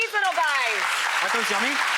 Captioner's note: applause